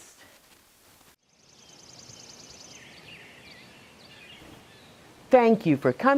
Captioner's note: birds chirping